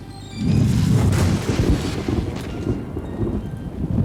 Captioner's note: thunder